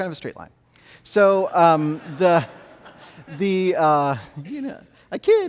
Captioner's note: audience laughs